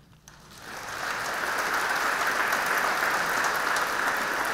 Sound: audience clapping

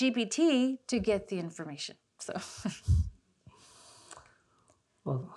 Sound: chuckles

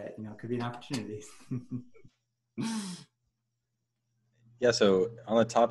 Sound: chuckles

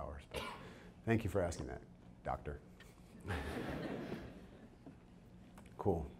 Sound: audience chuckles

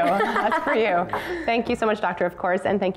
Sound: laughter

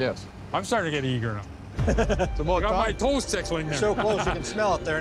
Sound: laughing

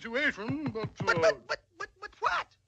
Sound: stuttering

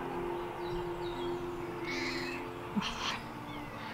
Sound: Milo meows; laughs

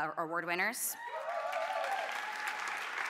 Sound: applause

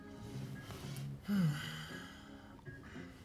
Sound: he sighs

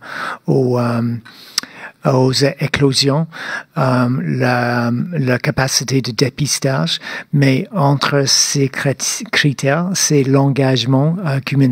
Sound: speaking French

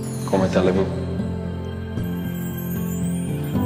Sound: speaks in foreign language; inspiring music

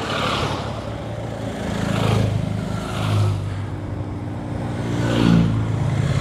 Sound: a motorcade passes

